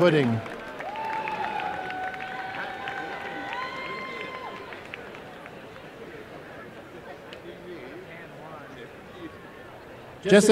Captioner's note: applause